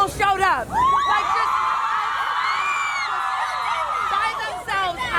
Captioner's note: crowd screams